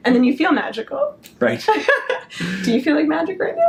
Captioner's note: laughs